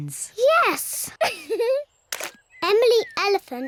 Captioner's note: laughs